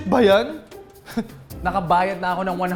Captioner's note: chuckling